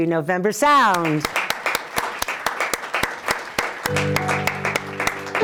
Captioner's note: applause